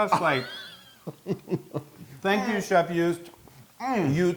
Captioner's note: laugh